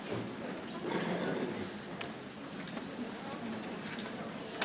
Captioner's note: people chattering softly